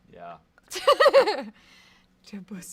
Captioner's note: laughs